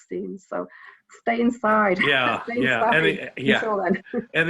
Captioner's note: laughs